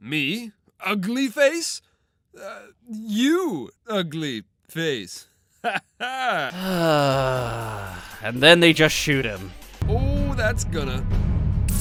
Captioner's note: sigh